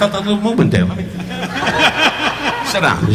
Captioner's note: audience laughing